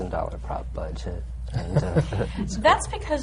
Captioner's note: laughs